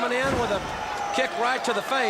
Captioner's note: crowd cheering